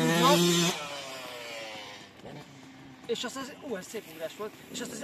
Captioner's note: 2T bike sounds